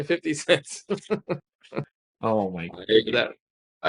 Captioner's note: laughing